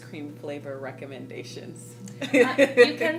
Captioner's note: laughing